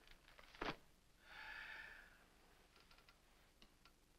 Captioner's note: heavy sighing